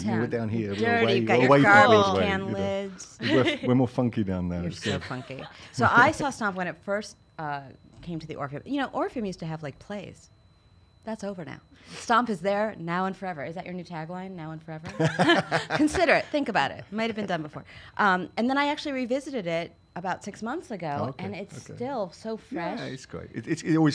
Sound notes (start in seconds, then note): 14.9 laughs